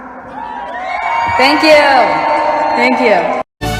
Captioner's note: audience cheers